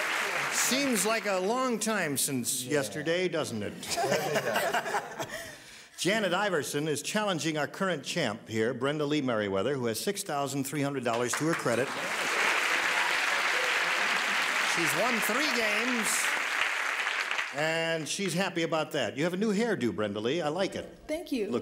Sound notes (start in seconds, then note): 3.8 laughter; 11.2 cheers and applause